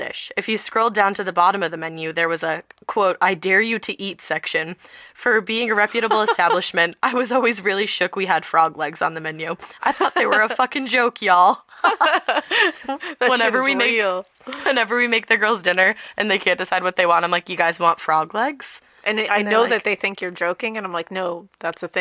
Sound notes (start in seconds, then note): 11.7 laughter